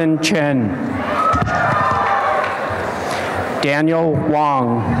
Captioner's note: applause and cheering